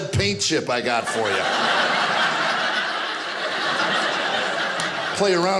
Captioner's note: audience laughing